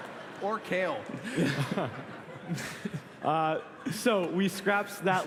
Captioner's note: laughter